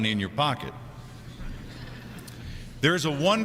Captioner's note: crowd chuckling